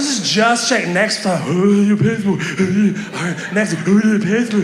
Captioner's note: mocks